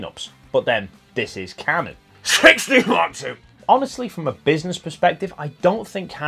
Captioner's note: cough